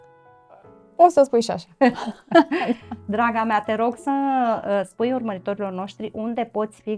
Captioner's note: laughter